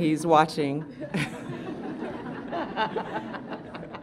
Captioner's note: laughter